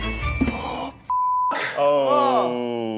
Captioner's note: gasping; beep